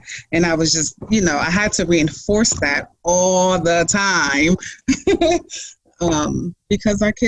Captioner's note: laughs